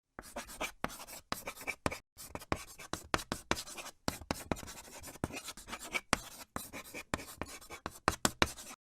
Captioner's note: scratching of chalk on chalkboard